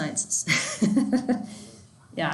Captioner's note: laughs